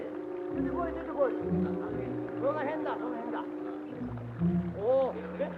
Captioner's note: soldiers speaking in Japanese